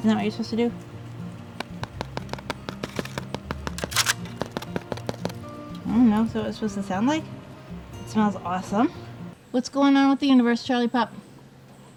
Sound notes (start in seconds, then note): 1.6 tapping